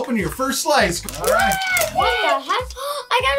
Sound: yelling

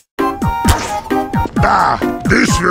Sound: spawning sound

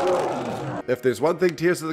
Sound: Trevenant roars

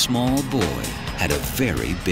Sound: engine sputtering

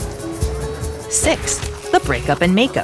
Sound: pen scratching

